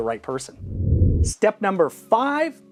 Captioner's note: air whooshing